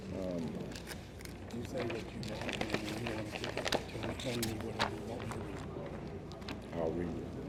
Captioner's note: speaks faintly